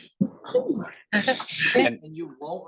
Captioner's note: attendees chattering